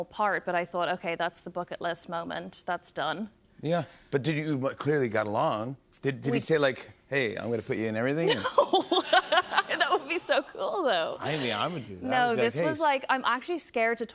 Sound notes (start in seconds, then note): 8.3 laughs